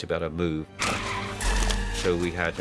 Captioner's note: tires screech